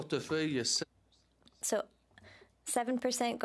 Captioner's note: speaking French